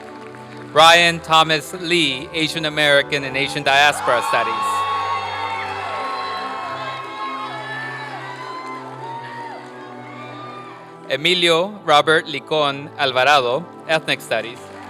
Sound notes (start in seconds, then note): 4.8 applause and cheering